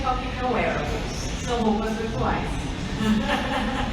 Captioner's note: laughs